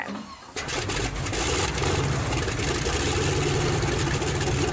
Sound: engine roars

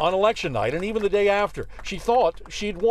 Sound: cheers and applause

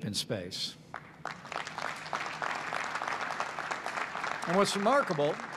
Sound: applause

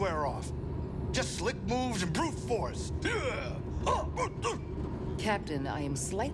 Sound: makes fighting noises

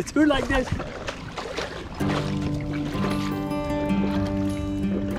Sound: splashing

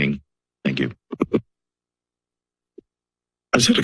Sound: silence

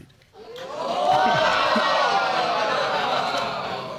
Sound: audience gasping

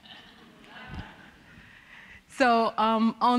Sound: audience laughing

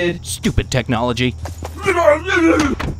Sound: robot muttering; door closes

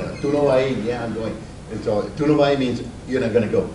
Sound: speaks Spanish; speaks Spanish

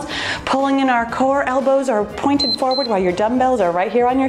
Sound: timer bees

